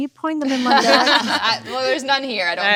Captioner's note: panelists laughing